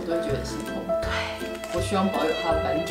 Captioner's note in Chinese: 心痛的氣音